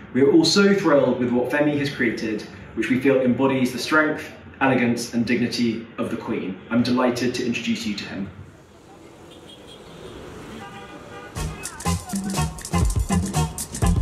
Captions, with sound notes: We are also thrilled with what Omofemi has created which we feel embodies the strength, elegance, and dignity of the Queen. I'm delighted to introduce you to him. [cars beeping] [upbeat music]